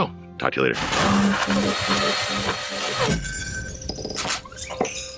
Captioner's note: electronic sounds